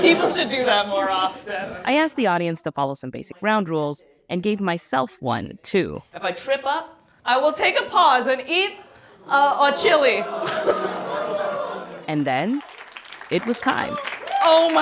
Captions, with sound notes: People should do that more often. I asked the audience to follow some basic ground rules, and gave myself one too. If I trip up, I will take a pause, and eat a chile. (audience laughing) (audience applauding) And then it was time.